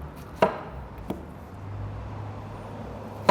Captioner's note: knife chops